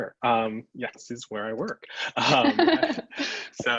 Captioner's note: laughs